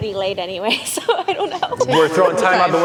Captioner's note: laughs